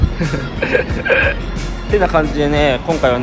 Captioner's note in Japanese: 笑い